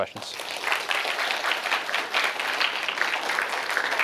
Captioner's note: applause